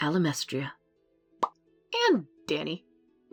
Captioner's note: pop!